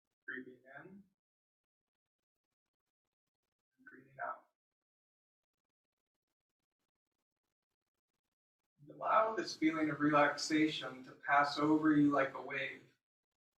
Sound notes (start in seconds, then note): none